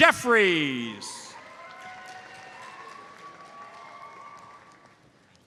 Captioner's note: audience applauds